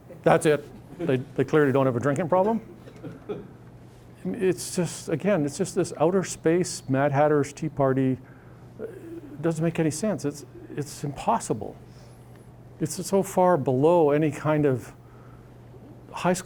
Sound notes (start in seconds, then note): 3.0 audience laughing